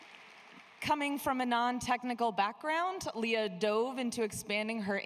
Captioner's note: applause